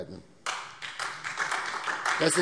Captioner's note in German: Beifall SPD und vereinzelt DIE LINKE